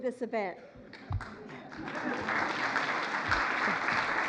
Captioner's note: applause